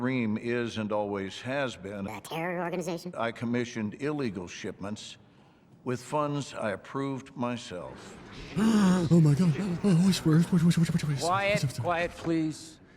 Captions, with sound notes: *gasp* Oh my god, oh whishper*whsiperwhsipssppsps* *gasp* Oh my god, oh whishper*whsiperwhsipssppsps*